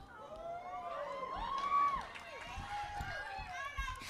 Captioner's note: audience shouting